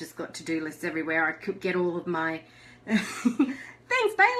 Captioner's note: laughs